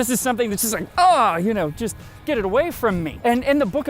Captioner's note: aaaugh!